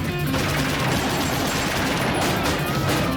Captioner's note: guns fire